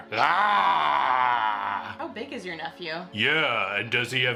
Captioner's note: growls again